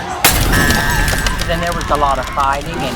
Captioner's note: glass shattering